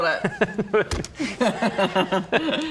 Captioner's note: giggles